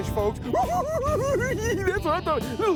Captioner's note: laughs